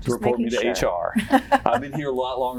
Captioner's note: laughter